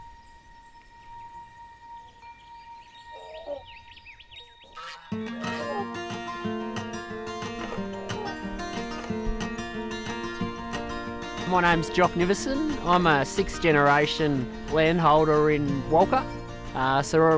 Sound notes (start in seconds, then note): 4.6 goose honking; 5.3 bright music